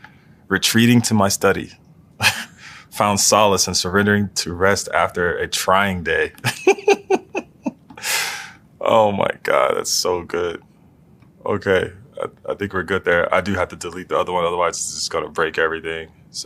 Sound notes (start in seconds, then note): 2.2 laugh; 6.4 laugh